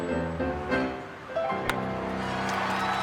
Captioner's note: bat hits ball; crowd cheers, organ plays